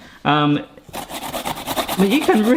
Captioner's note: grating noises